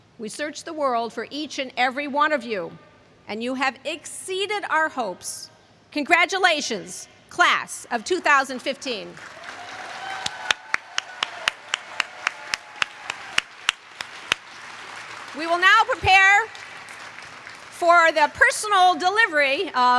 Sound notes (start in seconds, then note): 9.1 applause